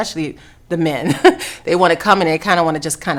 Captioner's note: laughing